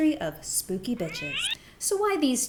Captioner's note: cat screeching